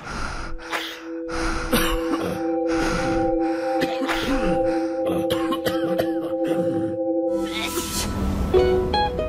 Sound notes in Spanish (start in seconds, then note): 0.4 Respiración agitada, estornudos; 3.7 Toses; 8.6 Música suave: charango